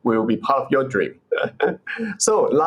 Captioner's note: laughs